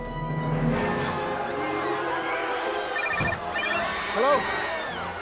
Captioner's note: screaming crowd